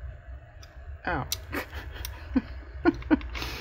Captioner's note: laughs